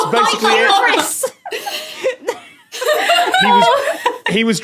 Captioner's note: guests laughing